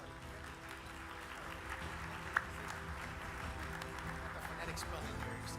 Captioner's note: audience claps; triumphant music